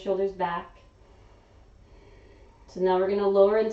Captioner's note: exhaling